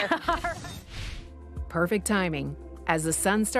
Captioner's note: laughing; swooshing